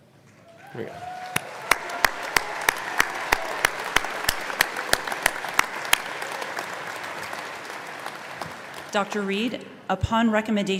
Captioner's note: applause